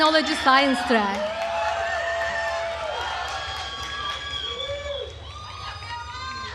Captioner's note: attendees cheering and applauding